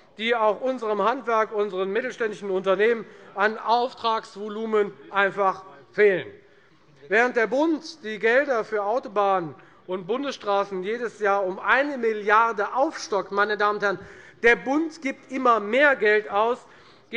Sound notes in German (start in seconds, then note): none